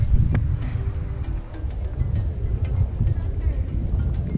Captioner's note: wind blows